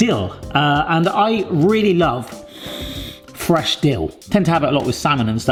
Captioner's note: sniffs